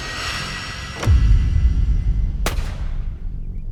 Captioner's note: door thudding; guns firing; gentle tense music